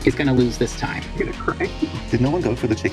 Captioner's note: levitating sadness noises